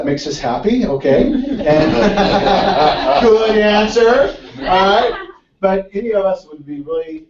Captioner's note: laugh